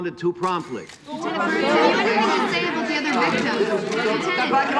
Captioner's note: overlapping chatter